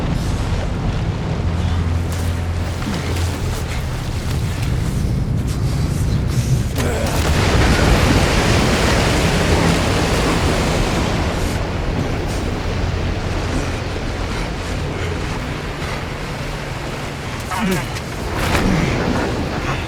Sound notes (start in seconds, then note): 2.0 panting